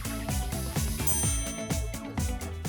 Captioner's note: dinging; upbeat music